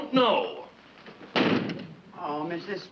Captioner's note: door slams